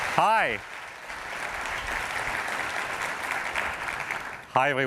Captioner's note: applause